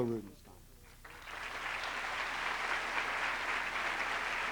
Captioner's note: applause